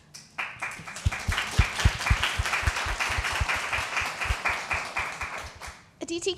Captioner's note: applause